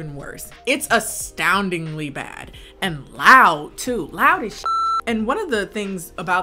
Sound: beep

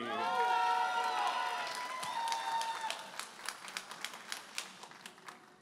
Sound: audience applauding and cheering

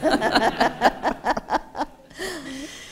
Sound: laughter

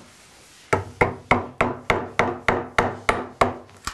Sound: hammering

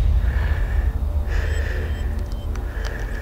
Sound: heavy breathing

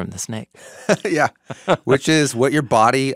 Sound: chuckling

